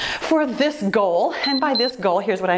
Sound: timer beeps

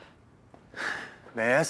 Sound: sigh

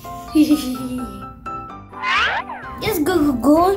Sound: mischievous giggling

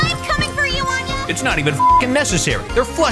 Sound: beep

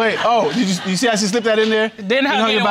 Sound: audience laughing

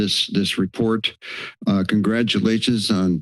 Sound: inhales

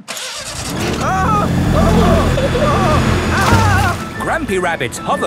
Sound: grandpa screaming

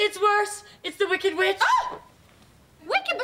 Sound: <i>screams

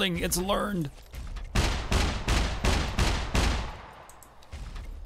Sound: mech Gunshots

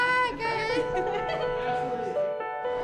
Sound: chuckling; light piano music

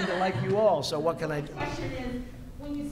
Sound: laughter

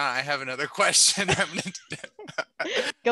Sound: laughter

